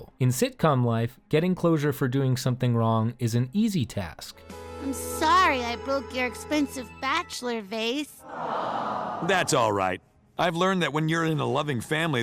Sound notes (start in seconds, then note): 8.2 audience aww's